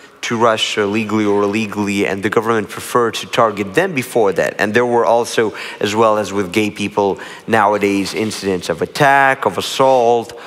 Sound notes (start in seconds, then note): none